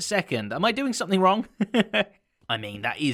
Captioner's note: chuckles